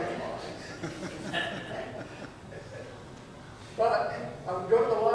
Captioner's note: audience chuckles